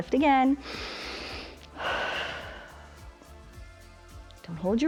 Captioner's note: inhales and exhales